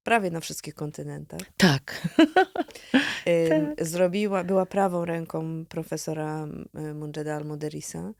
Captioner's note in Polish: śmiech